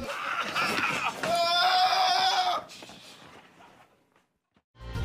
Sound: team yelling

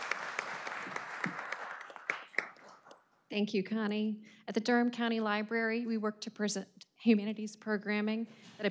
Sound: applause

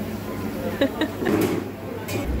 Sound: giggle

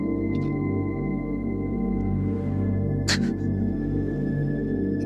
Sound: Jack crying; soft instrumental music

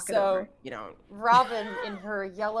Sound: players chuckling

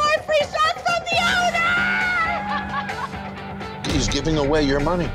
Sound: laughing

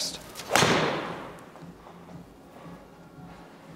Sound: ball thuds

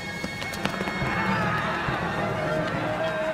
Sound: running footsteps

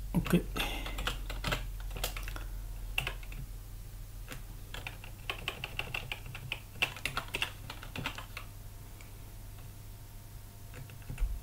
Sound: typing

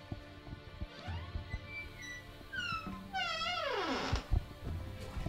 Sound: door creaking

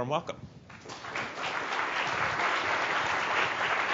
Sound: applause

